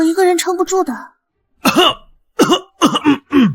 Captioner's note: cough